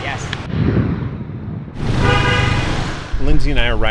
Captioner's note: honking